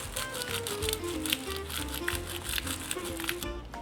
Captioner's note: pepper sprinkle